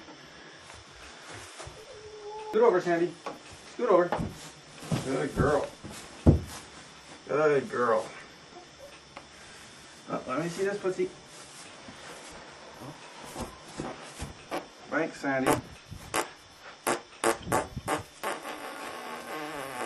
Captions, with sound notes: Scoot over sandy Scoot over Good girl Good girl Let me this footsie (Farts) Thanks Sandy